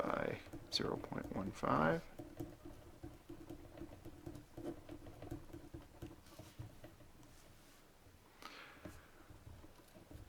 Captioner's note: writing